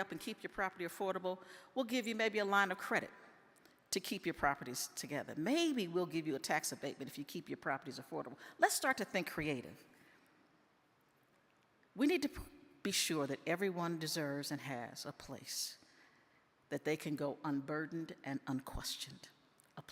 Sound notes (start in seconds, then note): none